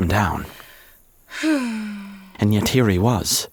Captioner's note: Thomas sighing